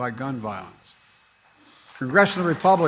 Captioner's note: applause